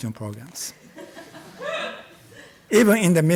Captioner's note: audience laughs